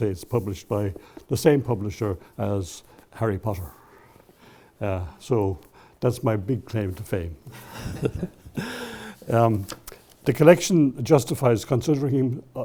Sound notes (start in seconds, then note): 7.6 chuckles